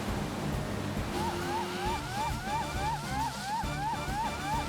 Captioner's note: heroic Music; sirens Wailing